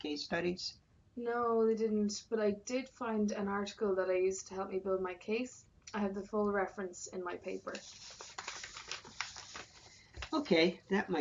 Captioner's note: rustling of papers